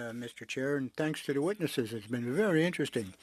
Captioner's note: speaking French